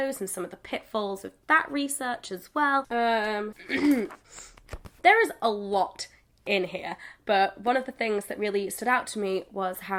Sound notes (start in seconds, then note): 3.6 clears throat